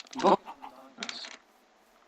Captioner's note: audio muted